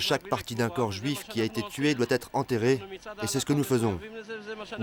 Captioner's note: French spoken audio